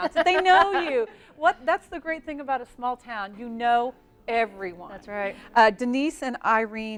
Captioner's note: laughing